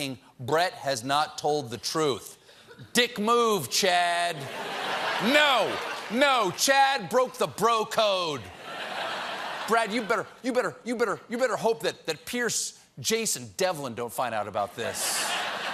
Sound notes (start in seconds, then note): 4.3 laughter